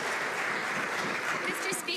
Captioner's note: some Applause